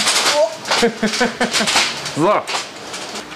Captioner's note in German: lacht